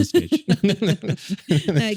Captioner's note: both laughing